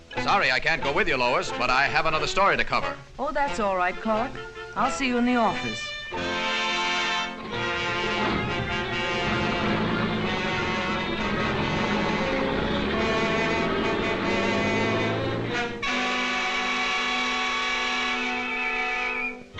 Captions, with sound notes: - Sorry, I can't go with you, Lois, but I have another story to cover. - Oh, that's all right, Clark. I'll see you in the office. (light dramatic music) (engine rumbling)